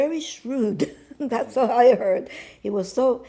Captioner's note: laughing